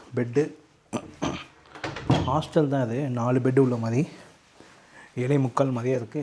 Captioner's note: clearing throat